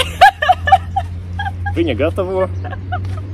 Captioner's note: laughs